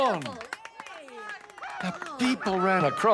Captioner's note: people cheering